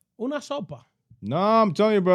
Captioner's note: speaking In Foreign Language